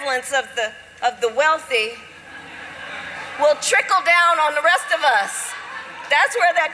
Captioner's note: laughter